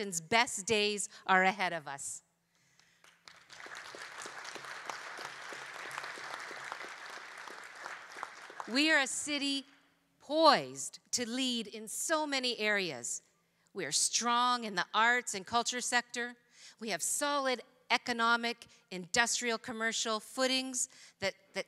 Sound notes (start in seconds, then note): 6.9 applause